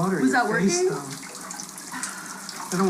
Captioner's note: sighs